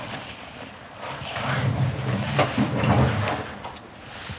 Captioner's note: thud rolling